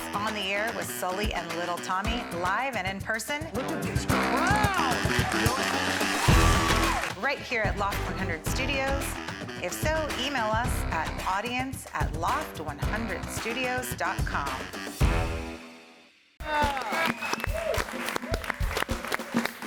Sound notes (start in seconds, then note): 4.2 audience applauding; 16.4 all applauding